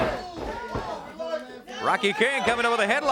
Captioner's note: crowd cheering; crowd chatter